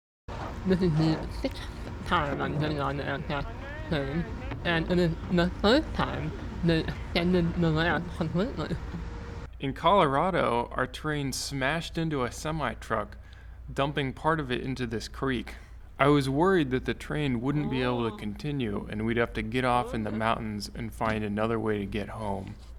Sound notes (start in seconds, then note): 17.5 in train, exclaiming